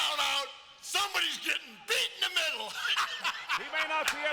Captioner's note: chuckling